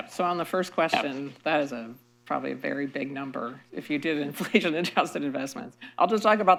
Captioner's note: laughs